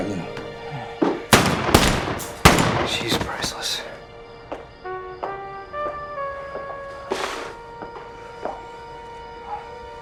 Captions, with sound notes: Sorry Lew. (gun firing) She's priceless. (dramatic music)